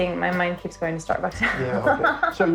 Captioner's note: laughs